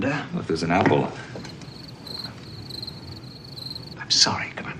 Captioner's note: cricket sounds